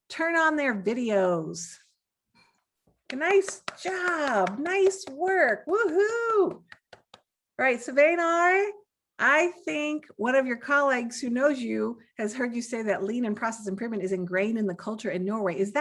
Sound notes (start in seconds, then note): 3.0 claps hands; 5.6 exults